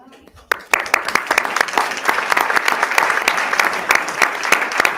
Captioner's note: everyone applauding